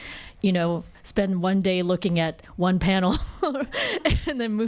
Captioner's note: laughs